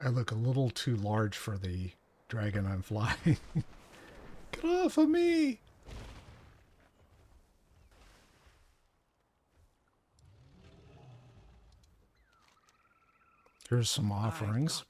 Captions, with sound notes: I look a little too large for the dragon I'm flying. (giggling) - Good luck for me. - Here's some offerings.